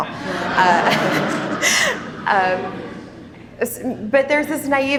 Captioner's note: attendees laughing